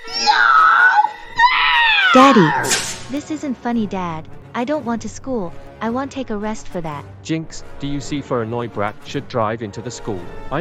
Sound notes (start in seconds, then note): 2.1 flashback Sound